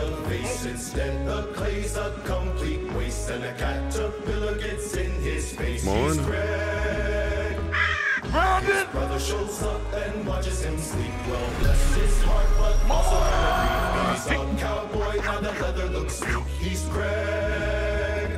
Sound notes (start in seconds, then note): 14.9 both scream